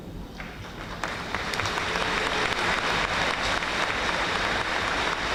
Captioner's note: audience applauding